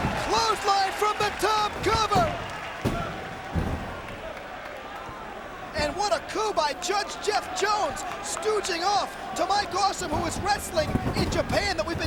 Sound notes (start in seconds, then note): 0.0 bodies slamming; 1.1 hand slams